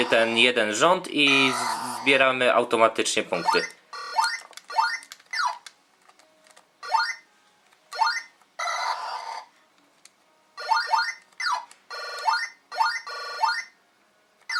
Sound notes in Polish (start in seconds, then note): 3.9 dźwięki z gry